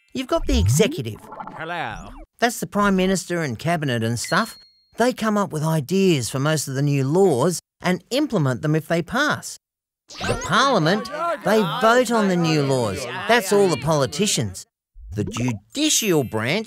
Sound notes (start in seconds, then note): 10.4 background chatter